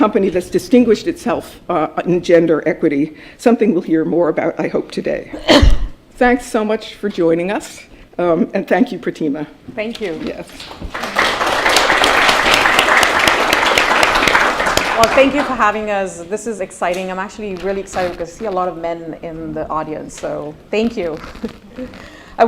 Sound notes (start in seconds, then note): 10.5 applause